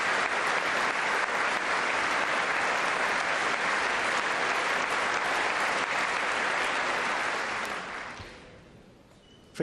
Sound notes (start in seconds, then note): 3.5 applause